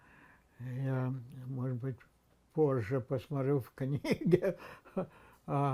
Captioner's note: laughing